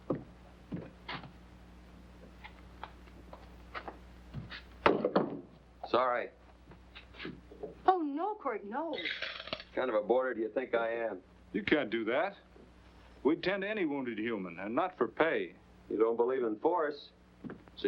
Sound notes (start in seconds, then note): 4.8 gun clatters on floor; 8.9 coins clattering into cup